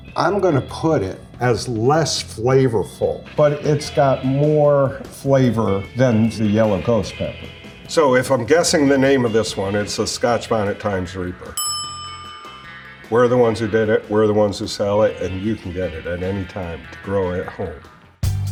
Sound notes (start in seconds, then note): 11.5 bell dings; 18.2 upbeat music